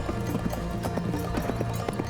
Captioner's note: horse galloping